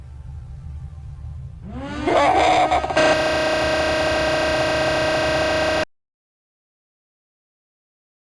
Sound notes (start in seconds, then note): 1.6 computer buzzing